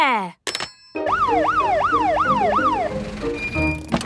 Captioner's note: siren sounding